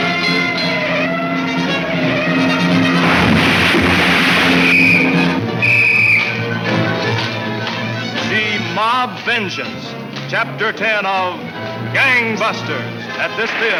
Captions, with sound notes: (whistle blowing) - See, Mob Vengeance, chapter 10 of Gang Busters at this theater next week.